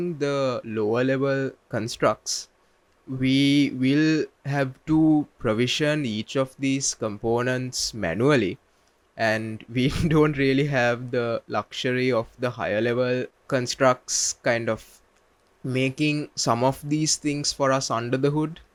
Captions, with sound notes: the lower level constructs, we will have to provision each of these components manually. And [chuckles] we don't really have the luxury of the higher level constructs kind of making some of these things for us under the hood,